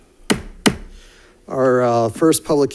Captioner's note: gavel bangs